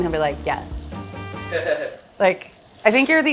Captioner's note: chuckles